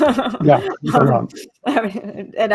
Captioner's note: laughing